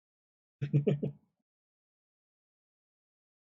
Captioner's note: chuckles